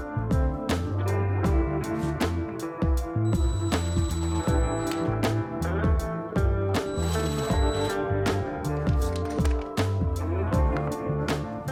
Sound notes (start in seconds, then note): 3.3 drill whizzing